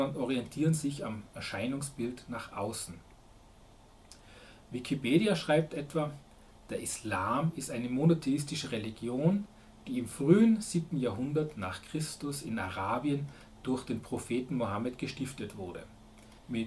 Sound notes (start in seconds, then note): 4.1 German